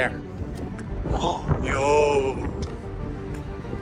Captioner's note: gasps